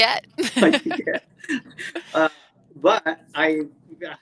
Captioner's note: both laughs